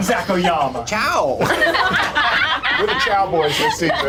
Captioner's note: laughing